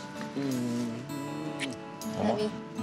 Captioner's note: smooch